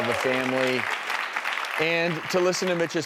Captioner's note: applause